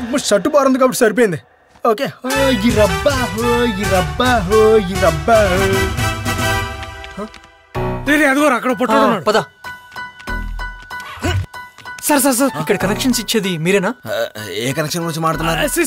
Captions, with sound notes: I'm glad that my shirt is long. (Humming) There! I see a short man there. Let's go. Are you the one who's giving out connections? Which connection are you talking about?